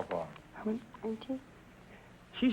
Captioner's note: whispering